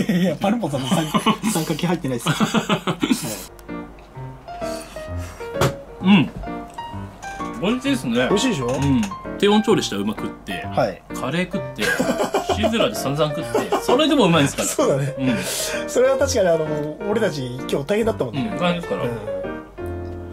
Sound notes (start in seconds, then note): 2.2 laughter